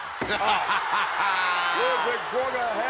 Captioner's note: Ted laughs